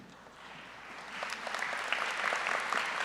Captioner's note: applause